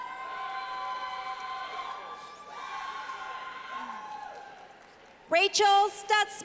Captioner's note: clapping